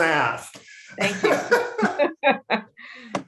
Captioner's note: both laugh